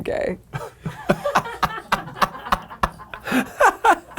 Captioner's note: people laughing